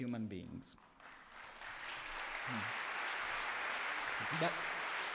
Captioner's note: applause